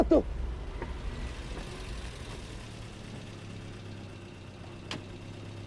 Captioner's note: car approaching; car door opens